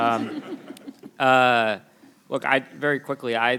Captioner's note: people laugh